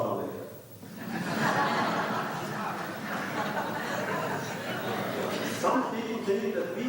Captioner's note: laughter